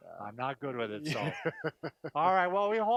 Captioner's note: laughing